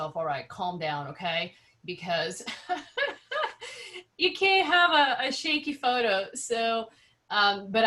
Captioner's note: laughs